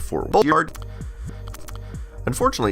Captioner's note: lip smacking